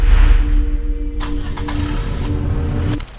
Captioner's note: engine starts